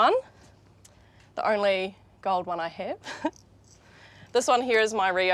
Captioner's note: chuckles